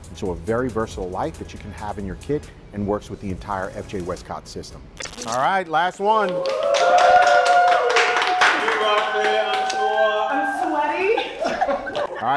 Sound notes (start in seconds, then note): 6.1 competitors cheering; 10.8 competitors laugh